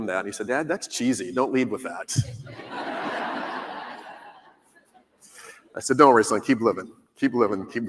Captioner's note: laughter